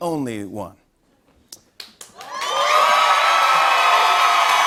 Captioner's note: cheers and applause